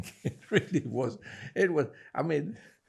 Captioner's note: laughing